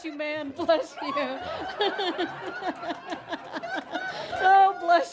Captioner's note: laughing